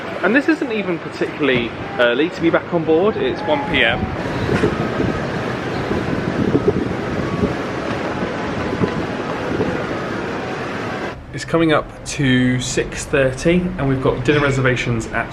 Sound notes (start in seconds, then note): 6.4 wind blowing; 9.0 soft music